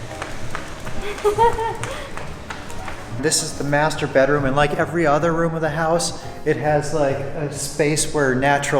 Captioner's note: laughs